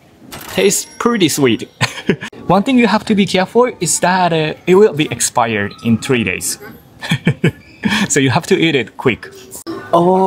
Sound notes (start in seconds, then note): 1.6 chuckles; 6.5 chuckles